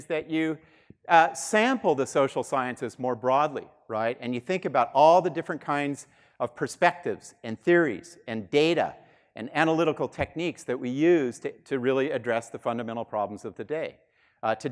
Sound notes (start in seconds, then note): none